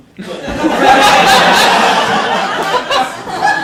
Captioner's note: audience laughing